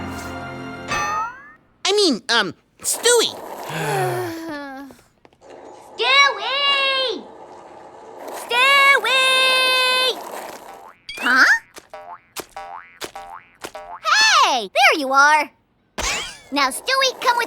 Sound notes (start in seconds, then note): 3.6 exasperated sighs; 11.0 bouncing